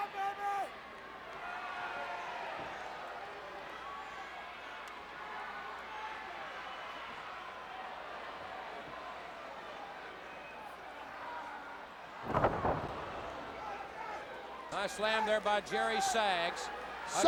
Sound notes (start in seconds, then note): 4.5 crowd Cheering; 8.0 cheering Continues; 12.2 floorboard bouncing